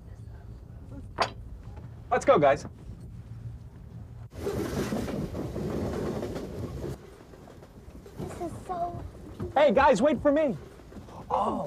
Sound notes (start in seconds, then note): 3.7 train on tracks